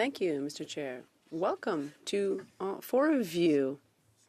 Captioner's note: speaking French